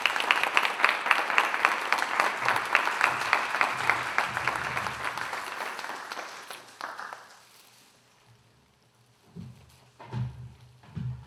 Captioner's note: applause